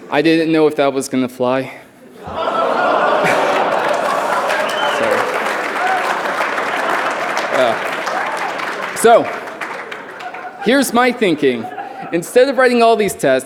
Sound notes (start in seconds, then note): 2.1 laughter